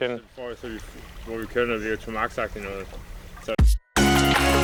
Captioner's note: speaking foreign language; bright electronic music